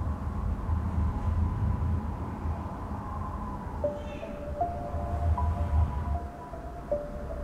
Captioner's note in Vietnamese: Tiếng gió và trẻ con khóc